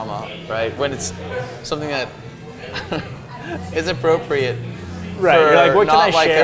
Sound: laughs

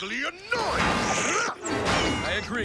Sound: grunt

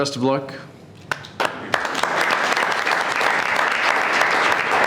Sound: board clapping

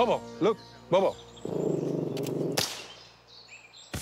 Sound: growling; gunshot

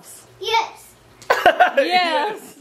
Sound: laughs

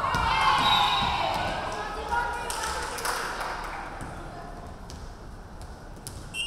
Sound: crowd cheering; referee whistling

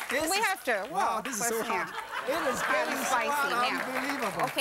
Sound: crowd; laughter

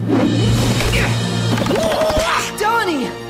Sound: grunting

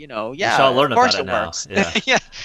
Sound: laughing

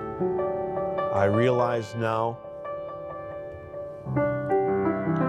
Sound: reciting

